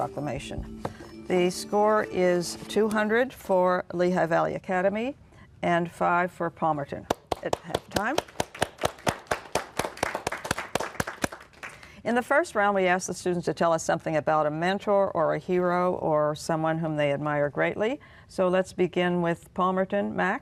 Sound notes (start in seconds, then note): 7.2 applause